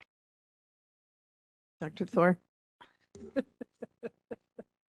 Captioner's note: laughing